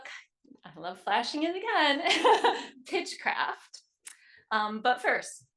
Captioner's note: chuckles